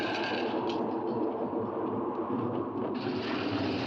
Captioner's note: portcullis rattles; wind howling; portcullis rattles